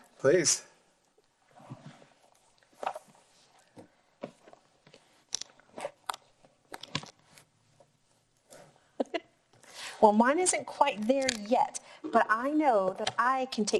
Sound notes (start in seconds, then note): 9.0 laughing